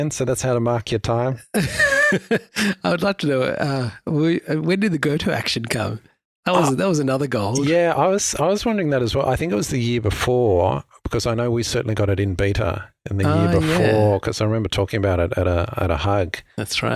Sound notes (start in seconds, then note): 1.5 laughing